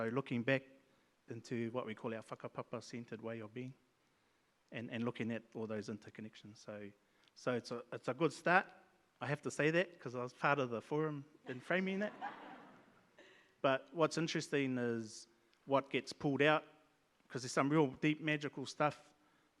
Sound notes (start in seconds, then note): 11.5 audience laughs